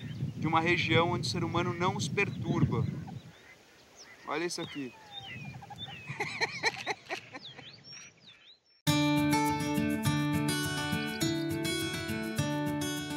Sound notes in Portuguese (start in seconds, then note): 5.6 risada